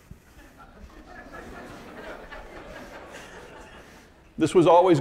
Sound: audience laughing

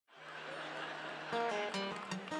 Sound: audience laughter; guitar music

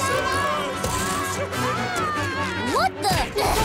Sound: screaming

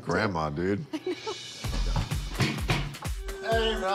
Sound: laughs

